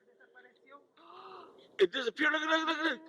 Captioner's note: woman gasps